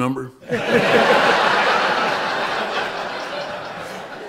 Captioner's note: laughter